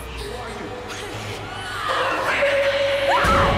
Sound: screaming

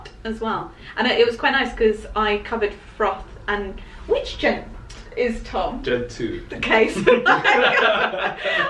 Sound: laughter

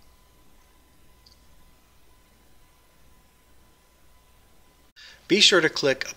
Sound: pause

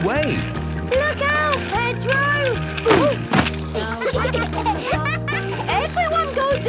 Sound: laughter

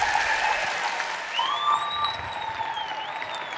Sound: applause

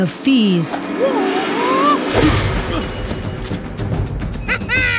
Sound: battle cry; laughs

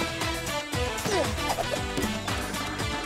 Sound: grunts

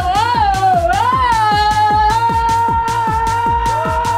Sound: yelling

